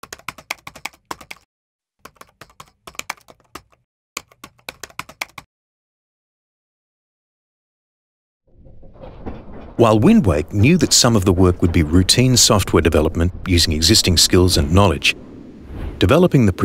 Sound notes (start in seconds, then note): 0.2 clicking keyboard sounds; 8.6 cogs moving